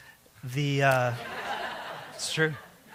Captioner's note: laughter